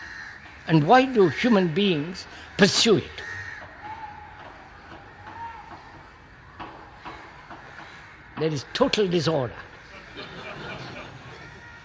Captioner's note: laughter